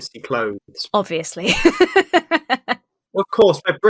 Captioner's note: laughs